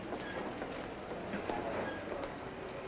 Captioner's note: none